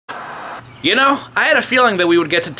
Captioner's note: TV static